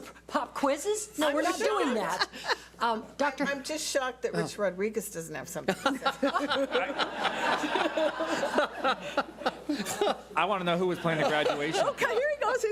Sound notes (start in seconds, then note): 5.9 laughs